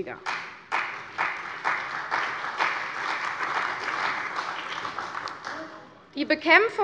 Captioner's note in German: Beifall bei der CDU und dem BÜNDNIS 90/DIE GRÜNEN